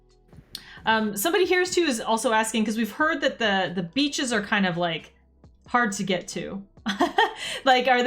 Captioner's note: laughs